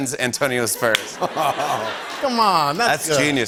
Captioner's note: laughter